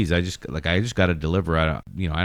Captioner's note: uh